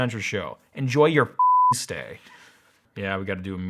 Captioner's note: beep